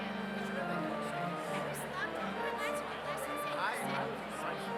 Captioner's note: none